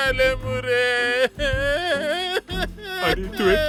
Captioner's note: crying